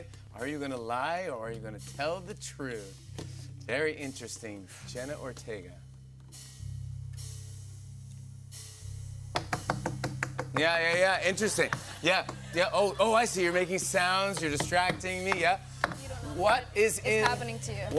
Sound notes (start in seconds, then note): 5.9 suspenseful music plays; 9.3 tapping